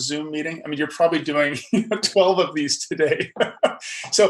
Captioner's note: laughs